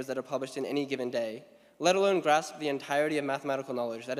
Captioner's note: none